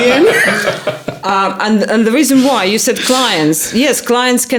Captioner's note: laughing